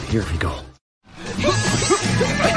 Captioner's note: grunting